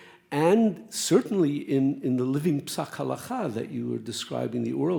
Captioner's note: speaks Hebrew